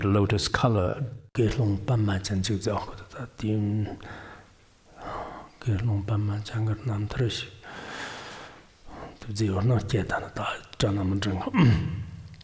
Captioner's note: giving oral transmission in Tibetan